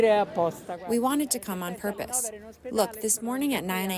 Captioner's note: through translator